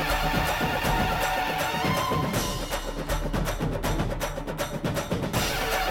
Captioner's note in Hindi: तालियाँ